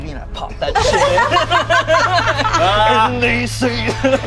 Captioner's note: group laughs